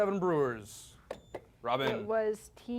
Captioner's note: beep